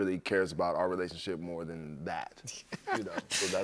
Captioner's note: laughter